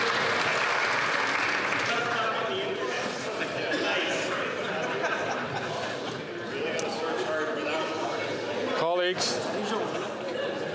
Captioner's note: some Applause